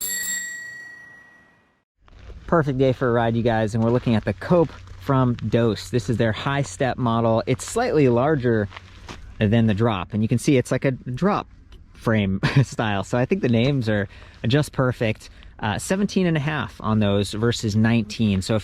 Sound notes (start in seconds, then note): 0.0 bell dings; 12.4 chuckles